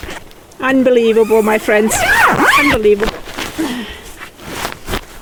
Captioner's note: sigh